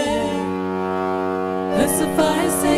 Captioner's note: ferry horn blares